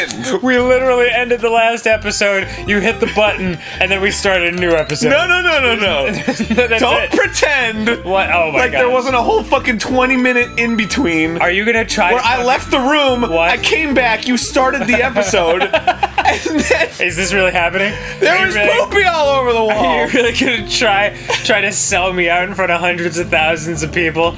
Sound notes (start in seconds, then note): 5.5 laughing; 14.6 laughing